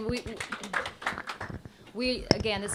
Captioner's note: applause